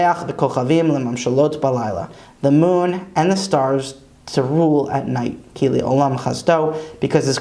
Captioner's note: Hebrew; Hebrew